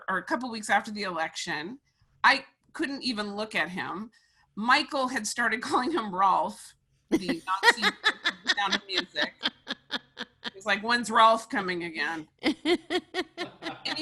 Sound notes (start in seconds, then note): 7.1 laughing; 12.2 laughing